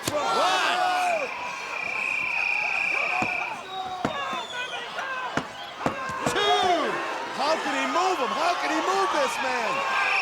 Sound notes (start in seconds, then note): 0.4 crowd cheering; 1.0 whistle tweeting; 1.7 crowd cheering; 6.5 crowd cheering; 10.0 crowd cheering; 10.0 whistle tweeting